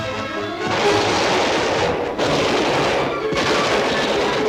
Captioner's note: gun firing rapidly